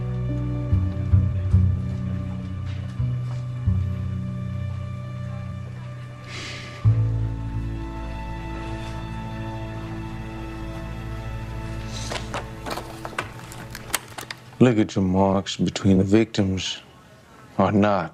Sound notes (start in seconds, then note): 0.5 somber music; 6.2 sighs